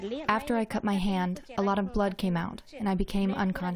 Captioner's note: through translator